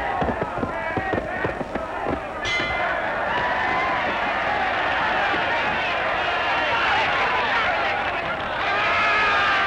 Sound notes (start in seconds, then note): 2.4 bell ringing; 3.9 cheering